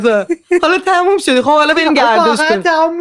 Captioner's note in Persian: خنده